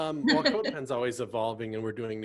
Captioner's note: laughs